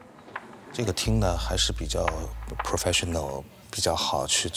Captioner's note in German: spricht Chinesisch